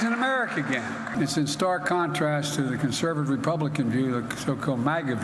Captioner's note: applause